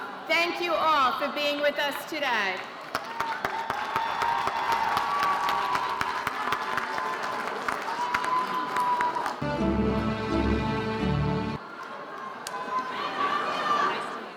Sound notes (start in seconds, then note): 2.8 audience cheering and applauding